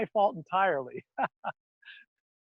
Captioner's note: laughs